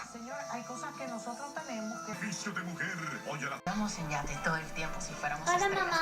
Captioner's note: tv in background